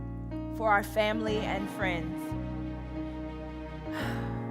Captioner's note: sighs